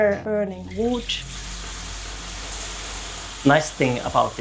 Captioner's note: wood sizzling